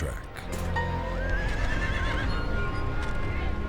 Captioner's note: horse neighing; foreboding music